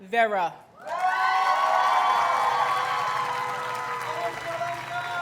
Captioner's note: audience cheers and applauds